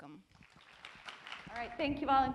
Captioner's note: applause